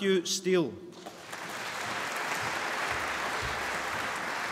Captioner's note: applause